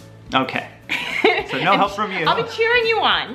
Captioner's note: laughs